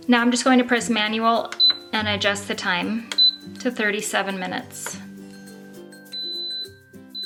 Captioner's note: beep, beep, beep